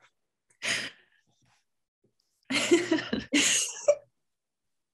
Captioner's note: giggling